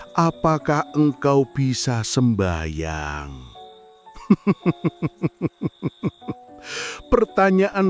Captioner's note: laughs